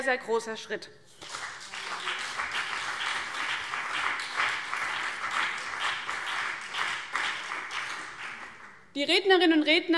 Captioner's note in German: Beifall CDU und BÜNDNIS 90/DIE GRÜNEN